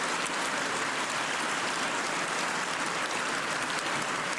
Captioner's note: cheers and applause